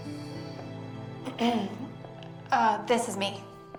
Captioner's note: clears throat